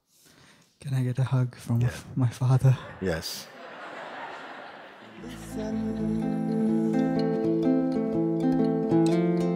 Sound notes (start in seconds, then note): 2.8 laughter